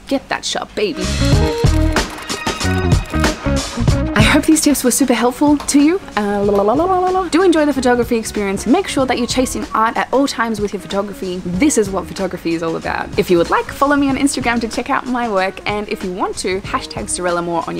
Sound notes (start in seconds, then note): 6.6 lip sounds